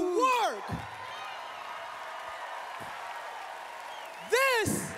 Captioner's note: cheering